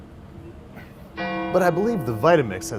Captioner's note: bell gonging